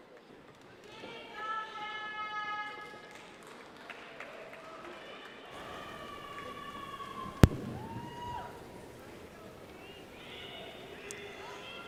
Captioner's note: cheers